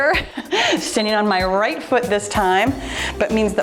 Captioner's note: timer beeps